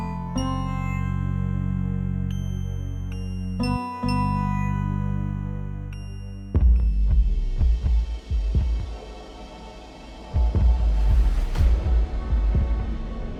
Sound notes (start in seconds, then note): 6.6 boom sound; 11.6 dark piano music begins playing